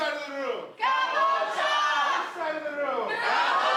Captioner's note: crowd cheering